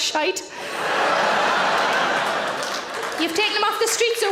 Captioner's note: audience laughs and claps